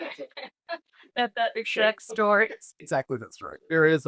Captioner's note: laughs